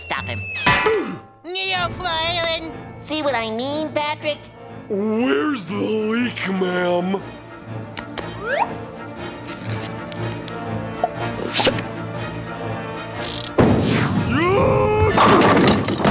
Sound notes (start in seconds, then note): 14.3 screams